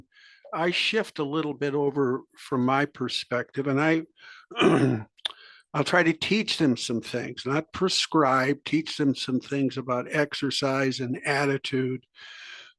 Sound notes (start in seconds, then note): 4.5 cough